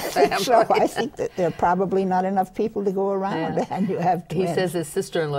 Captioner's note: laughs